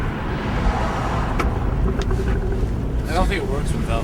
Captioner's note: air whooshing